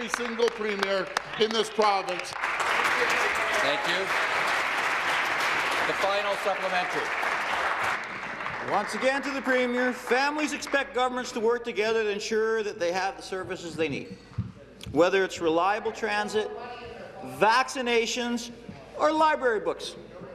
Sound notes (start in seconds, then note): 6.3 applause